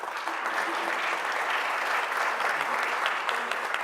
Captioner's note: applause